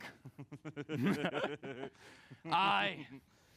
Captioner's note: laughs